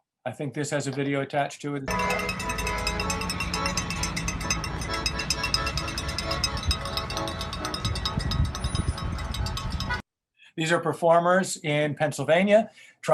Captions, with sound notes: I think this has a video attached to it. (bell dings) (upbeat music) These are performers in Pennsylvania